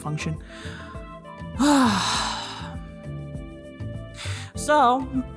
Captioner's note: sigh